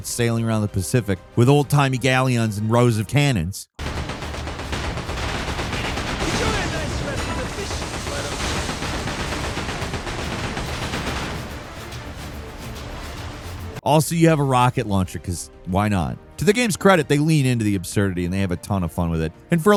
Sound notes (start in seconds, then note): 3.9 cannons firing; 7.7 cannons firing; 11.6 upbeat orchestral music